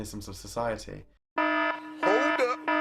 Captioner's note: alarm buzzing